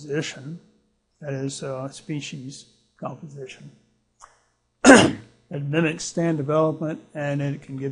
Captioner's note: clears throat